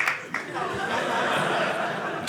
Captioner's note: audience laughing